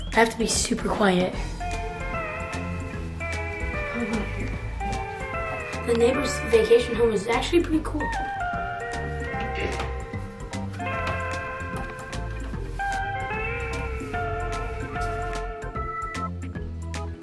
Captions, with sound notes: I have to be super quiet. Probably in here. The neighbor's vacation home is actually pretty cool. (wood creaking)